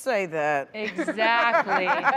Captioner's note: laughter